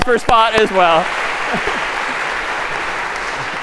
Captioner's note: می خندد